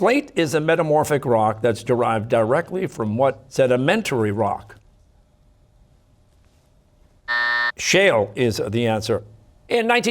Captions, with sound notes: Slate is a metamorphic rock that's derived directly from what sedimentary rock? (buzzer) Shale is the answer.